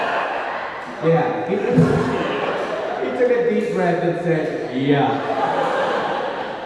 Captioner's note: laughs